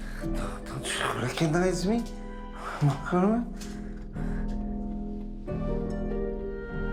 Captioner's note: speaks foreign language